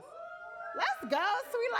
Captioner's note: audience cheering